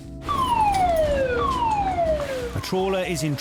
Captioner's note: siren blaring